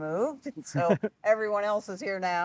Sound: laughing

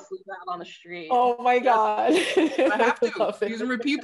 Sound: laughing

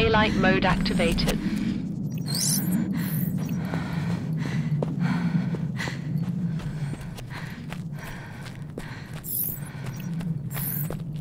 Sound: wind Swell

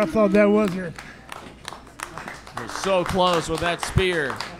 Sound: clapping

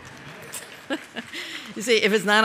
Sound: laughter & applause

